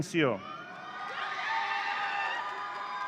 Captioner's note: audience cheering